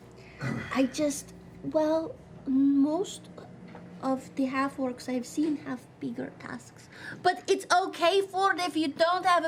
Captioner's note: whispering